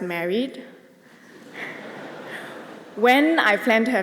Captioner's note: laughter